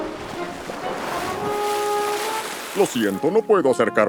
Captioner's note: water splashing